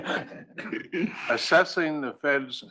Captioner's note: laugh